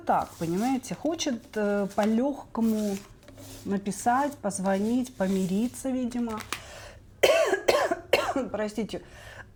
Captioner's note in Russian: кашель